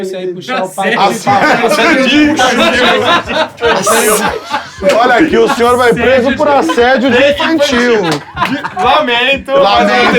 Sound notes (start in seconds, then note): 3.3 risos